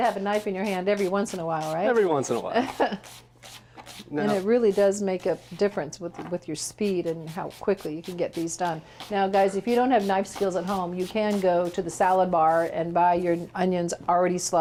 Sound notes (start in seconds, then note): 2.5 laughs